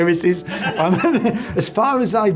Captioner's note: laughs